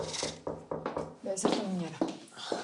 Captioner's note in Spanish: Toques en la puerta